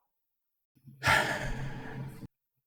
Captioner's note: sighs